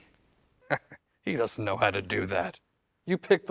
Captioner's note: chuckles